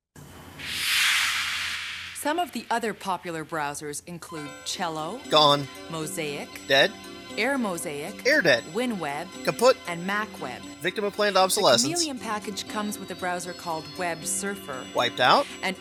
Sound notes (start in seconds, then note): 0.5 whoosh